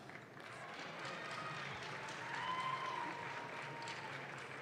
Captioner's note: audience claps